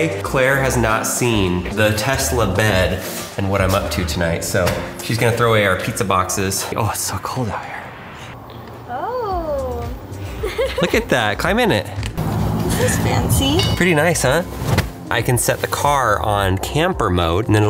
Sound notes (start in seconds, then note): 10.2 giggles